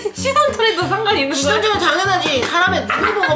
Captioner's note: graveled voice